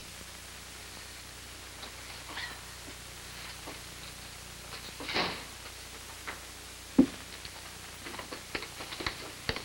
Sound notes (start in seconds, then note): 5.0 front door closes